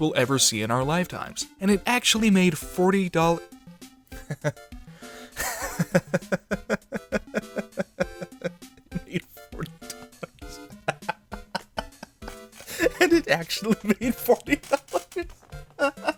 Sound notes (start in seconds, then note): 5.3 chuckling; 7.9 cackling